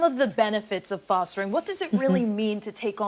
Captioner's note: laughter